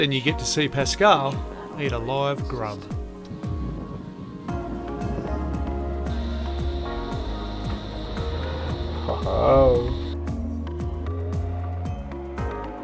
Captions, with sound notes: and you get to see Pascale eat a live grub. (fire crackles)